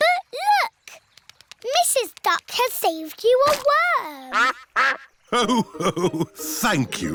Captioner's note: quacks